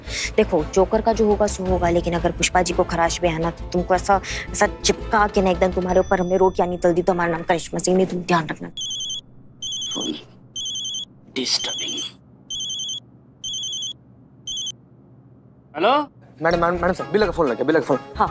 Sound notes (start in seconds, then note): 10.5 phone ringing